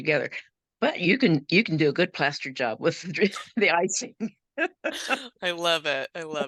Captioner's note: laughing